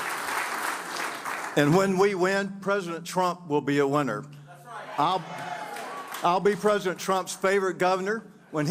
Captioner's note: applause